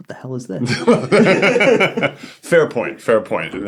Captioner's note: laughter